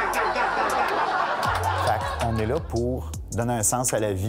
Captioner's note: laughs